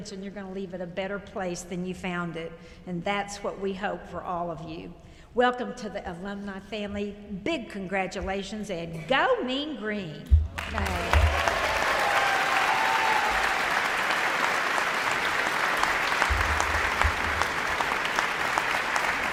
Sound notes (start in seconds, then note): 10.5 audience applauds; 10.6 people cheer